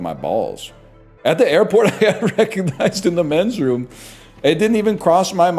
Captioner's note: laughing